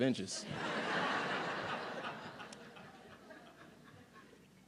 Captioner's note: audience laughing